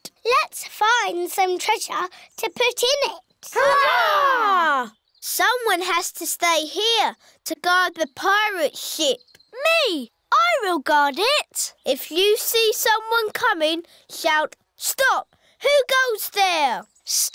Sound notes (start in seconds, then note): none